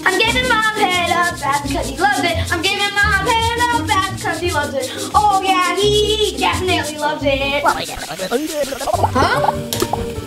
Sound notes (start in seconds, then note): 0.0 brush brushing; 7.5 Red gibbering; 7.6 germs popping